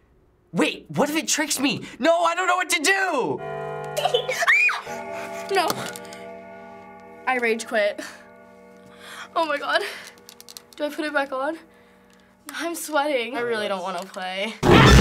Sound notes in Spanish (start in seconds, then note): 3.9 Peaje reloj, se ríe; 4.4 gritos; 14.8 ruge